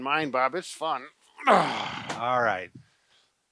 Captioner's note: grunts